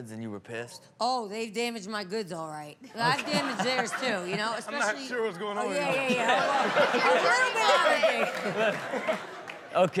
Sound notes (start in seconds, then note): 3.0 all laugh